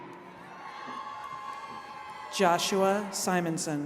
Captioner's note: attendees cheering